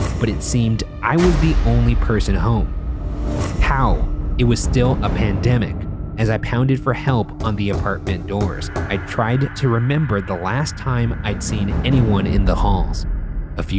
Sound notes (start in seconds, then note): none